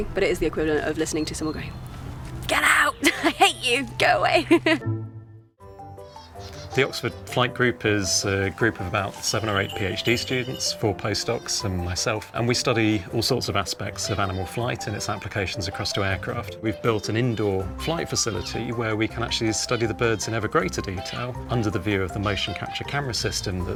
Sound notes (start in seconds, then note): 4.2 laughs; 5.6 lively music